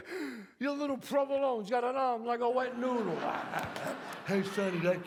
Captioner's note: audience laughs